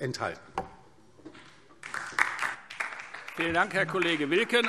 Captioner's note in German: Beifall DIE LINKE